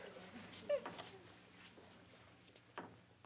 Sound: sobbing

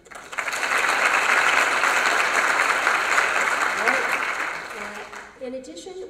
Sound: applause

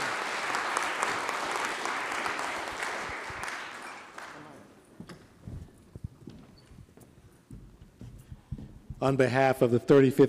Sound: applause

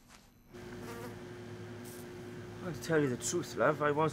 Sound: fluorescent lights humming; buzzing continues

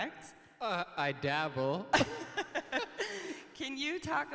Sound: laughs

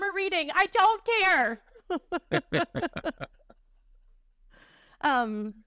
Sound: laughter

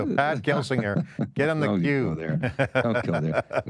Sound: laughs

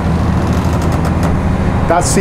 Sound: boat creaks

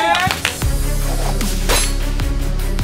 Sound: cheering; applauding; tense music playing; explosions

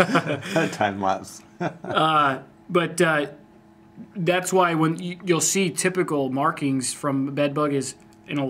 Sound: laughs

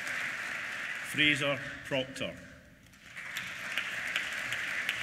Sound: applause

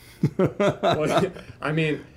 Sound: laughs

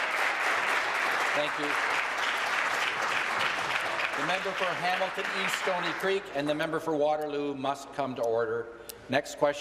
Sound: applause

